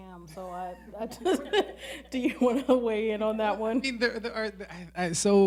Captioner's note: laughing